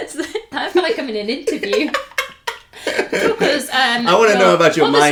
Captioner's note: laughter